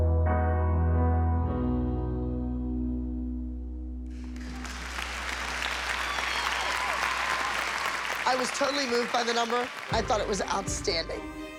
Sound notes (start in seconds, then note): 4.2 cheering and applause